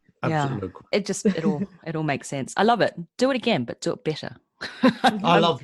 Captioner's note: laughs